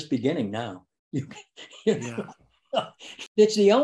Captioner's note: laughs